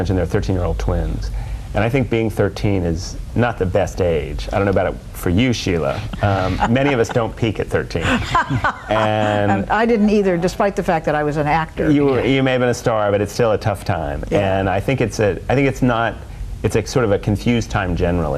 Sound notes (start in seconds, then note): 7.9 chuckles